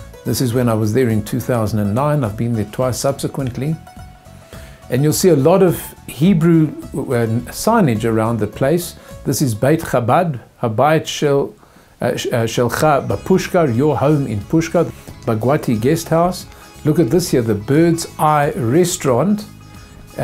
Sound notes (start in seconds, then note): 7.8 in Hebrew